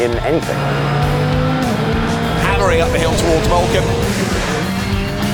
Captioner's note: car engine revving